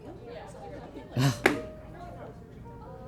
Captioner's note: scoffs